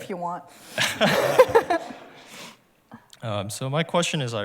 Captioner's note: laughter